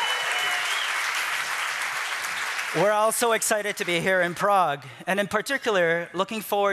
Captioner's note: applause